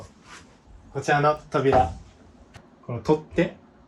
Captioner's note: door